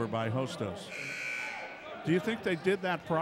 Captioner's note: buzzer buzzes